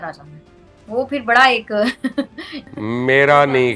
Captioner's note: nervous laugh